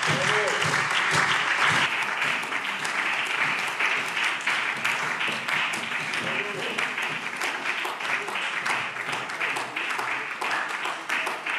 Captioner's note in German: Beifall